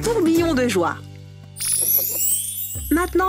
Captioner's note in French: bruit de baguette magique